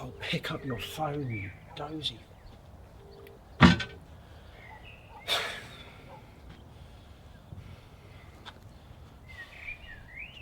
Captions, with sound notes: Oh, pick up your phone, you doze-y. (birds chirping) (sighs)